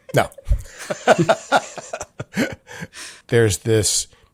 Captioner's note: all laughing